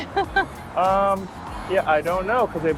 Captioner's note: laughter